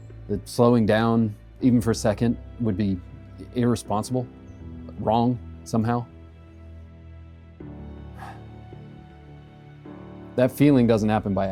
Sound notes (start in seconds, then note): 8.1 sigh